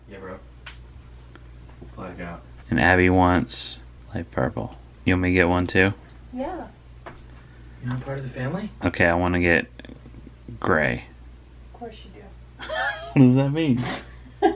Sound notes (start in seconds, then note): 12.6 laughs